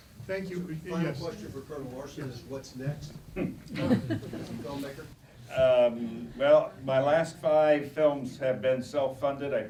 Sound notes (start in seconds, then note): 3.6 laughter